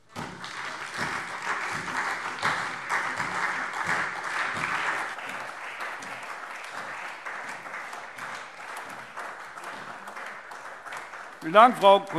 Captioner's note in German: Beifall SPD und Freie Demokraten